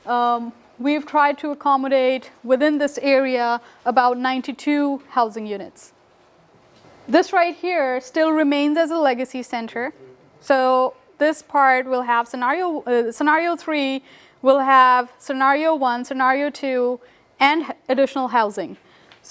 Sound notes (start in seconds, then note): none